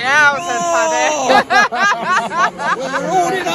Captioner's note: laughs